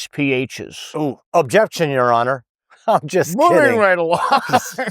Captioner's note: laughs